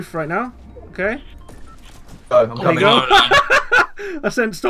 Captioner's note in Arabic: ضحك